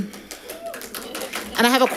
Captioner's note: audience applauding